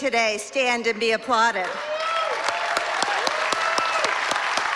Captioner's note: applause